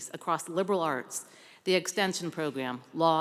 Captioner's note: none